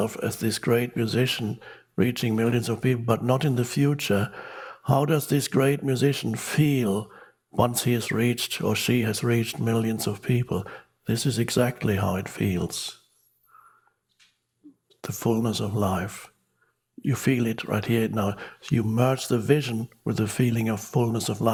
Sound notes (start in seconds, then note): none